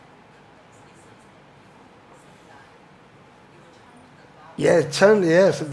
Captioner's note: audience member murmurs